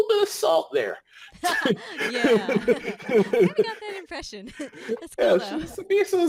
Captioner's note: laughing